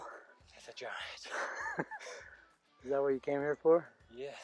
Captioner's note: laughs